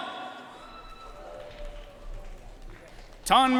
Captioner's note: audience cheering and applauding